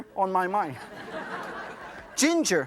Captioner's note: audience laughs